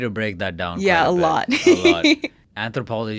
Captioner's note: laughs